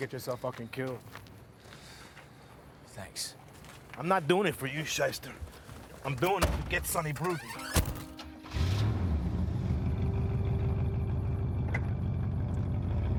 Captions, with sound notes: you're gonna get yourself fuckin' killed. - Thanks. - I'm not doin' it for you, shyster. I'm doin' it to get Sonny Bruton. (engine revs) (car engine rumbling)